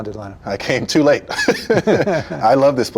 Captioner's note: chuckles